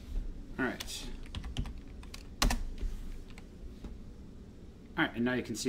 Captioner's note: keyboard typing